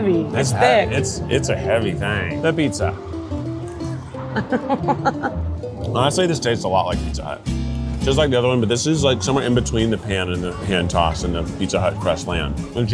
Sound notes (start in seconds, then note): 4.3 giggling